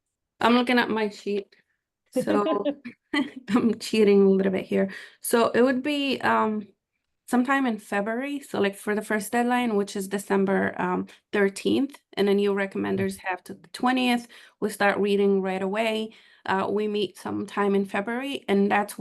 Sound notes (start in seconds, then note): 2.2 laughing